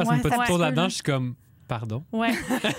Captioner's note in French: rires